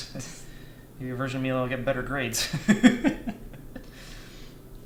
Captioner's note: laughs